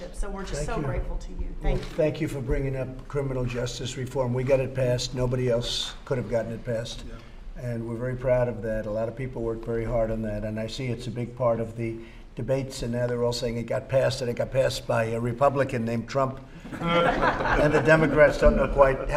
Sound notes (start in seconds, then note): 16.6 laughter